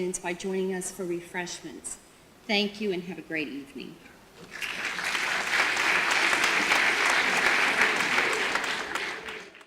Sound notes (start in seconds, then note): 4.5 audience applause